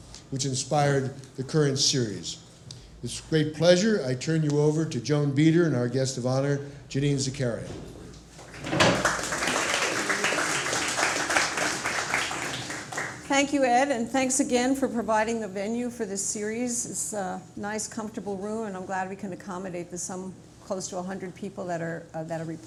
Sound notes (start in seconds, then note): 8.4 applause